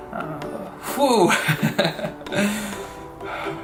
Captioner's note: laughs